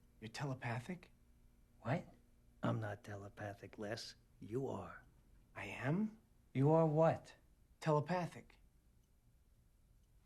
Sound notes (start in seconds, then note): none